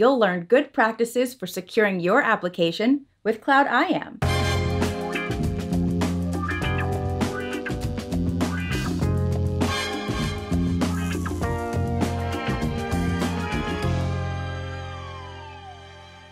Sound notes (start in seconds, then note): 11.1 sirens